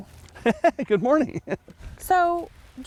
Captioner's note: laughing